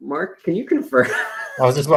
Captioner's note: laughs